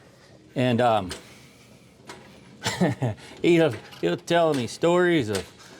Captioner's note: laughing